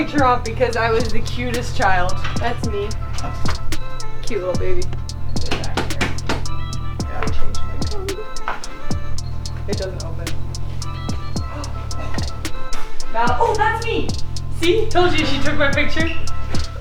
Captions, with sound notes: because I was the cutest child That's me Cute little baby [locker banging] They changed my code [keypad beeping] It doesn't open [gasp] Oh, that's me! See, told you she took my picture